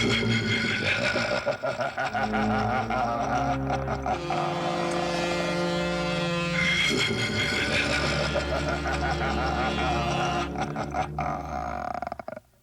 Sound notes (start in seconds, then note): 0.0 evil laugh; 4.1 honk; 6.8 evil laugh